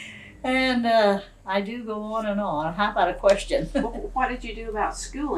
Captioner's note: laughs